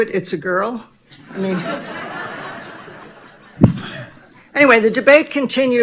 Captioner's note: audience laughing